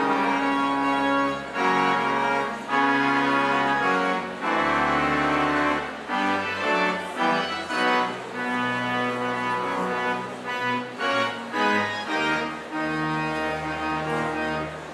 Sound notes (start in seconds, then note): none